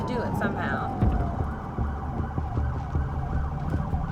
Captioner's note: siren wailing